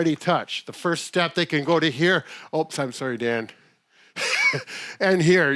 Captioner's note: laughs